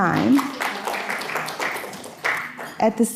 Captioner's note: audience clapping